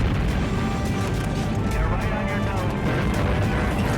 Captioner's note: voiceover